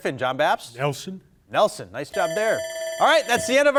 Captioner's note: timer ringing